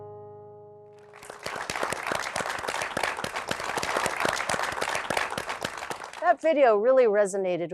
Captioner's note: applause